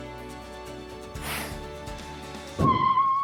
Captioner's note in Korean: 후우